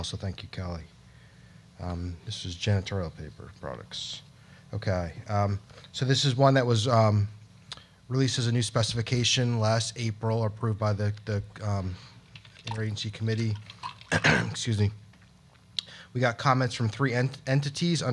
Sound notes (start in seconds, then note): 14.0 coughs